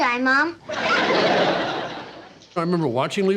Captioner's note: audience laughing